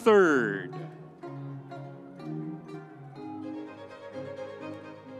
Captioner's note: audience cheering